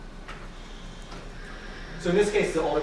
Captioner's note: whirring